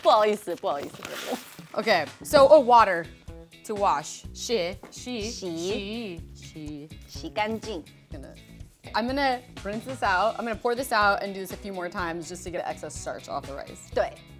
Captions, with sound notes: Okay. So oh, water, to wash. (Both speaking Mandarin) - I'm gonna rinse this out. I'm going to pour this out and do this a few more times, just to get any excess starch off the rice.